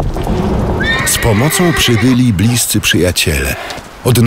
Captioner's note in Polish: koń rży